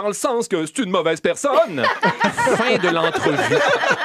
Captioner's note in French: rires